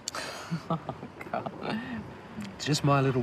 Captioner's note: laughing